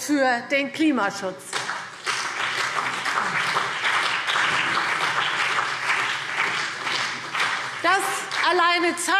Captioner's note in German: Beifall